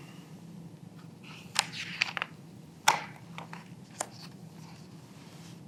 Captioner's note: pages rustling